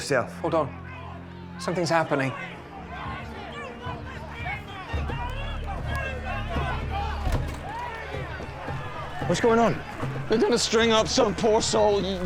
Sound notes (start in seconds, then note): 3.1 crowd clamoring